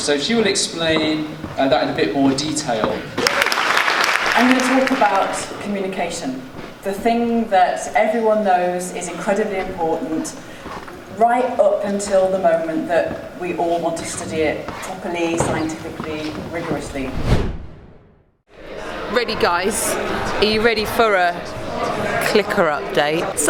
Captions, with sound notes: so she will explain that in a bit more detail. (audience applauding) I'm gonna talk about communication. The thing that everyone knows is incredibly important, right up until the moment that we all want to study it, properly, scientifically, rigorously. (air whooshing) - Ready guys, are you ready for a clicker update?